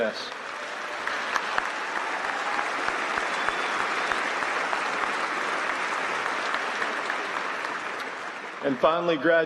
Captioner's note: applause